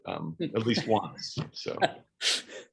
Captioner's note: laughs